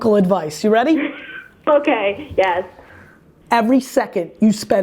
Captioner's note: laughs